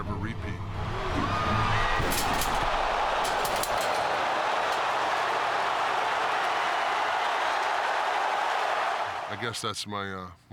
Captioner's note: applause